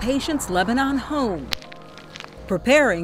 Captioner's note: soft music; stones crunching